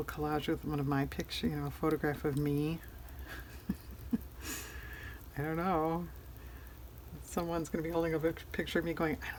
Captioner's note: laughs